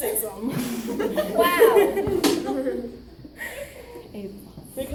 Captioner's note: audience laughs